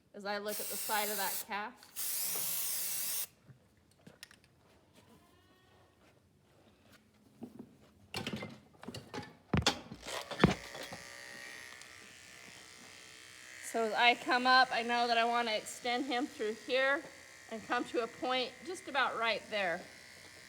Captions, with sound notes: as I look at the side of that calf. [clattering] [clippers buzzing] So I come up, I know that I want to extend him through here and come to a point just about right there.